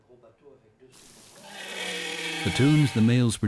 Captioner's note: whale singing